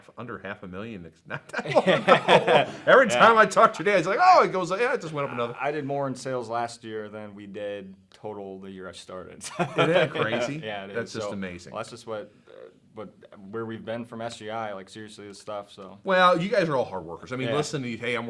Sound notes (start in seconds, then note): 1.3 laugh; 9.4 laughing